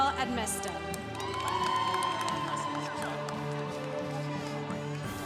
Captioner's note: congregation cheering